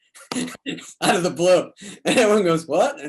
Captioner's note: David laughs